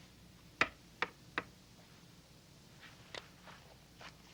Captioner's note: window taps